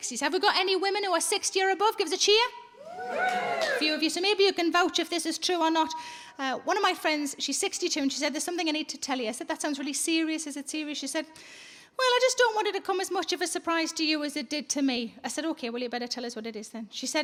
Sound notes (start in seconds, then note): 2.8 audience cheering